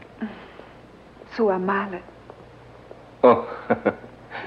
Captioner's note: chuckles